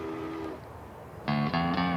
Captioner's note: train honking